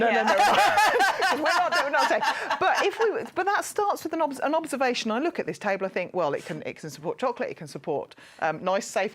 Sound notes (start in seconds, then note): 0.1 laughter